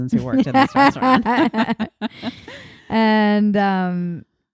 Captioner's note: laughing